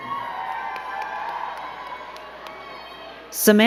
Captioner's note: crowd cheering and clapping